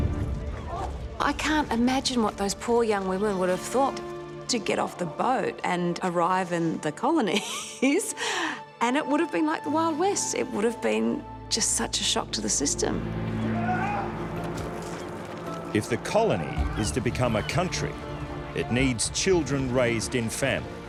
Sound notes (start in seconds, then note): 7.3 chuckles; 13.4 men brawling